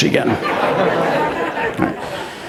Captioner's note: laughs